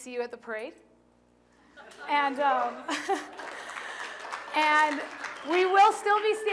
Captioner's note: laughter; applause